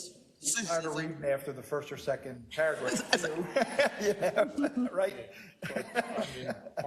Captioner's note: laugh